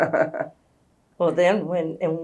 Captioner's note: laughs